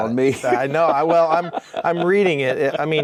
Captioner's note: laughing